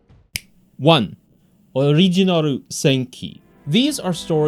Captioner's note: fingers snap